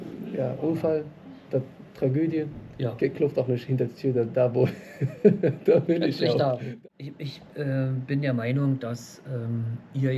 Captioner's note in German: gelächter